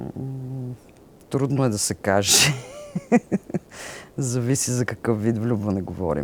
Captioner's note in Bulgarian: смее се